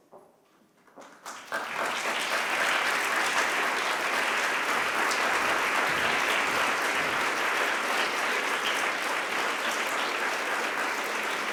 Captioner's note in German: Applaus